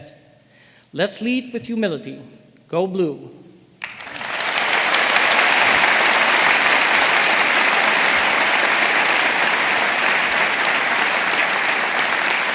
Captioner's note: applause